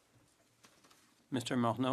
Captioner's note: speaking French